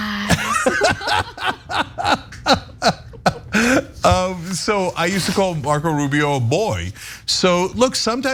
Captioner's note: laugh